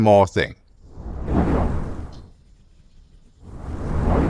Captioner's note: whooshing